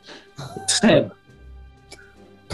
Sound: sniggering

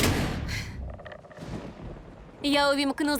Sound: gasps; thunder crashes

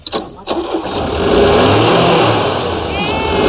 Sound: engine starts

